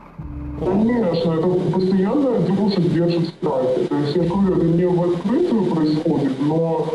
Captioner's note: interviewee speaking in foreign language